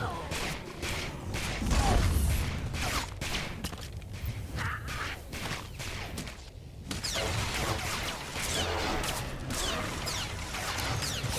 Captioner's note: gun firing